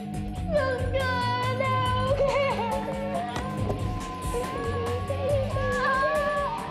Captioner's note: sobbing